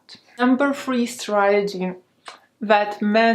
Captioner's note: kissing